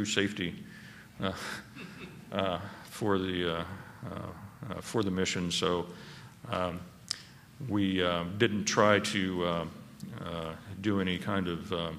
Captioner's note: laughter